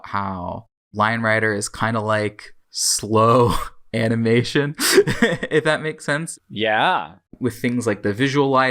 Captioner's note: laughs